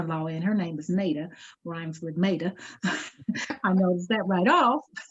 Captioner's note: laughs